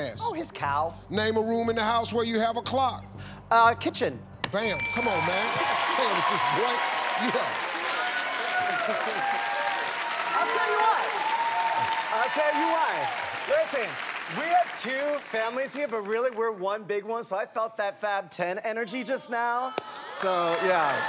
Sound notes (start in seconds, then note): 5.5 cheers and applause; 9.8 applause